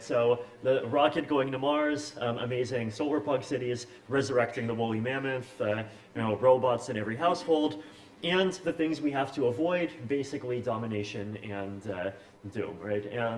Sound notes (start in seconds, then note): none